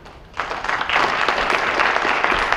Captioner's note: audience applause